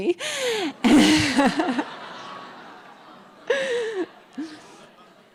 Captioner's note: audience laughing